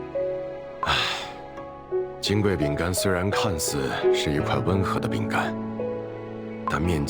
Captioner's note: sigh